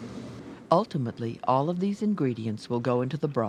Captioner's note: voiceover